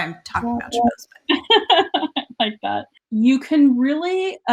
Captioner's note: laughs